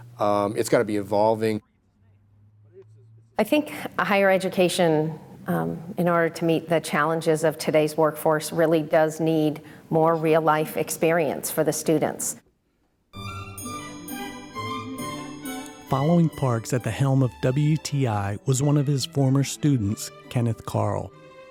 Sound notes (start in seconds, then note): 15.9 voiceover